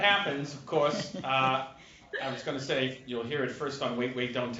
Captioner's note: laughter